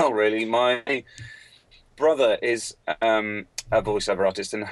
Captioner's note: none